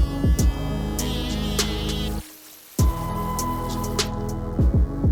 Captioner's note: upbeat music; water splashing; upbeat music